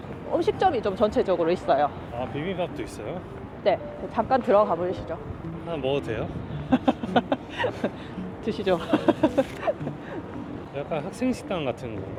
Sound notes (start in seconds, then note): 6.7 giving up laughter